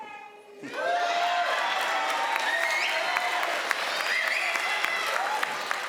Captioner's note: crowd laughs and applauds